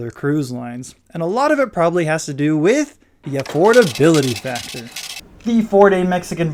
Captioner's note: receipt printing sound